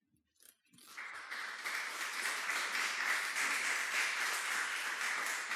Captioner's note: audience applauding